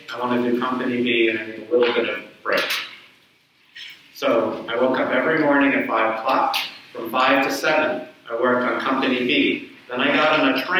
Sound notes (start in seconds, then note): none